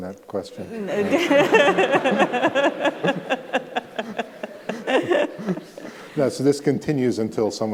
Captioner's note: laughter